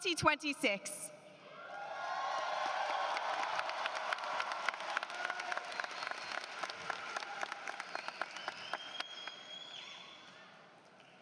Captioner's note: applause